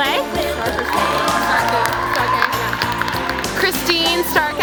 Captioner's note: applause